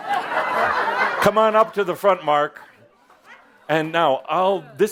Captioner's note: laughter